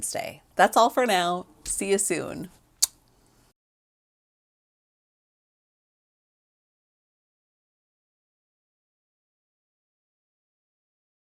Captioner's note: smooch